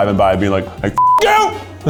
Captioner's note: beep